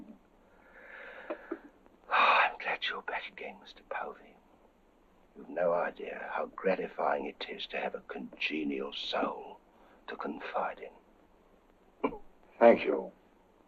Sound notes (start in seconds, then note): 0.5 exhales